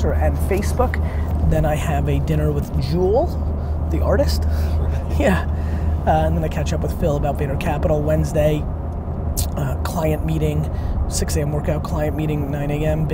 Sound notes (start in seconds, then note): 4.7 laughs